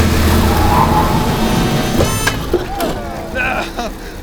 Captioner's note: tires screeching